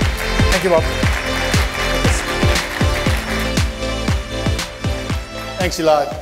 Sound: applause

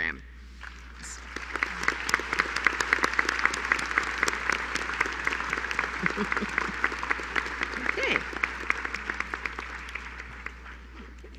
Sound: applause

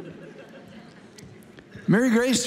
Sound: congregation laughing

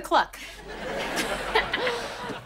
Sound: chuckles

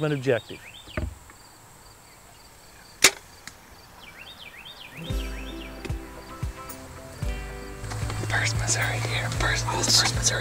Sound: whispering

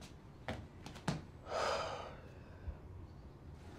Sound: little "girl" sighs

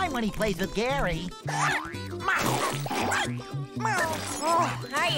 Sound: barking, meowing

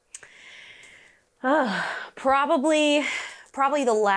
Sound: sighs

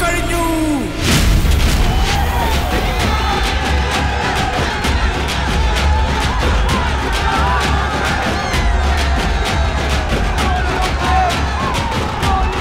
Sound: crowd Cheering

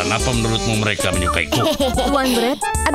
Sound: laughing

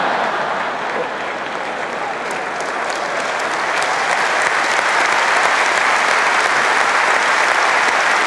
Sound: audience laughter and applause

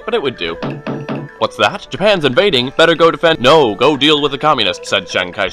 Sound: knock knock

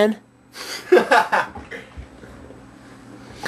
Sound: Anthony laughs

